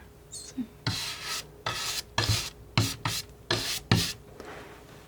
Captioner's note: scratching